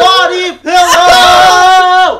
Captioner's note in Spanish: grita; llorando